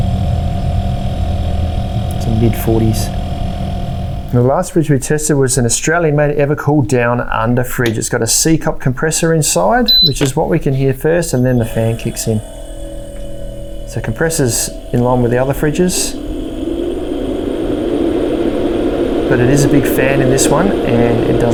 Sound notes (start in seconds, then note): 0.1 fan drones; 12.9 compressor buzzing; 16.5 fan drones